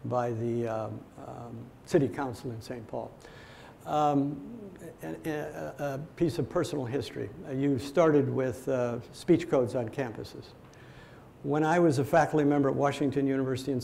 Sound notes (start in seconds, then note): none